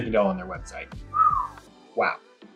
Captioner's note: whistles